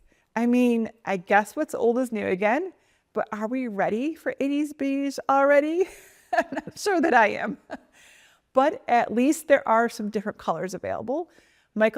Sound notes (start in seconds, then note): 6.2 chuckles